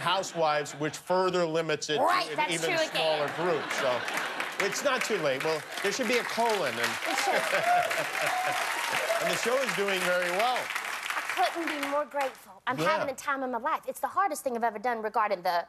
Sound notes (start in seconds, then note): 6.9 cheers and applause